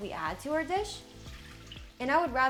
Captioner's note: stock pouring